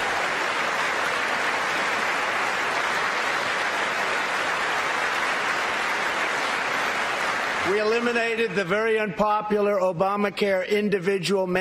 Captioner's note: applause